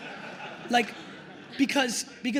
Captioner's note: attendees laughing